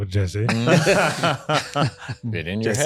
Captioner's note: laughing